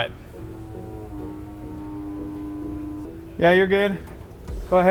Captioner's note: hydraulic car lift whirring